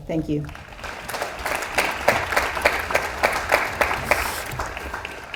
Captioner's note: audience applauds